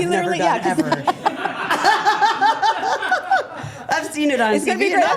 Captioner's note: group laughing